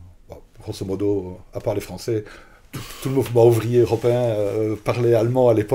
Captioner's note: laughs